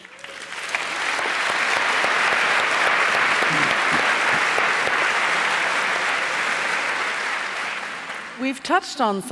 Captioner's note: applause